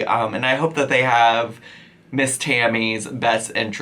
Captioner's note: none